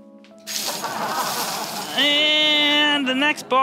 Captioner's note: audience laughing